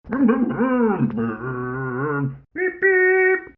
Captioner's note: Scruff makes scooter noises